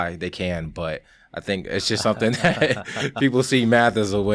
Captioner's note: laughs